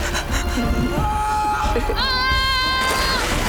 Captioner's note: boys screaming